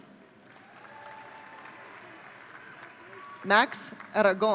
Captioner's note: audience cheering